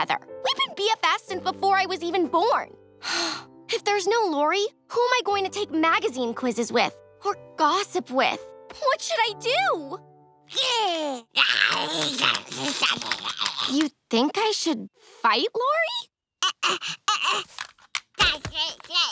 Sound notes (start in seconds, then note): 2.6 sighing; 10.3 babbling; 17.7 babbling